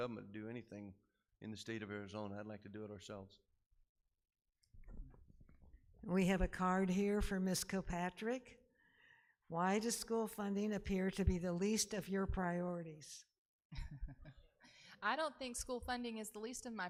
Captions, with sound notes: to do anything in the state of Arizona, I'd like to do it ourselves. - We have a card here for Mrs. Kilpatrick. "Why does school funding appear "to be the least of your priorities?" (laughing) - I don't think school funding is the least